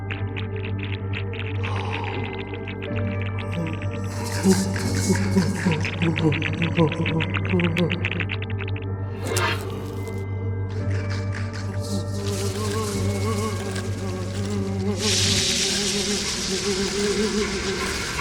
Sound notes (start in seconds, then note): 3.6 Max groaning; 9.1 flesh tearing; 10.8 Max groaning; 10.8 creature chittering; 15.0 creature buzzing